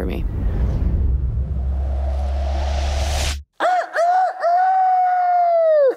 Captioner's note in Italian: vento che soffia; fa il canto del gallo